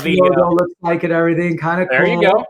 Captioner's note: murmurs